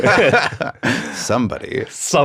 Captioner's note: laughs